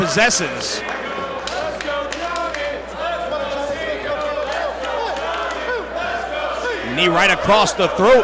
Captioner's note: applause